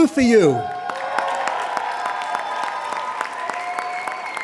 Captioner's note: applauding